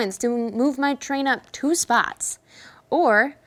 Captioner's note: none